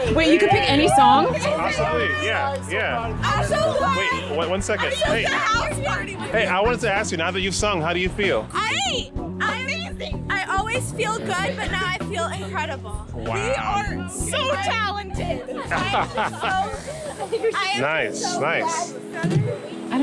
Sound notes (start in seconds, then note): 14.3 laughs